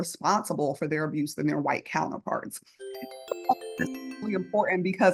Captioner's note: electronic tones